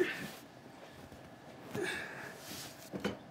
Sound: grunting

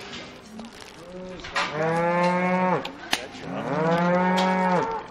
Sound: cows mooing

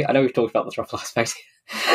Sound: laughs

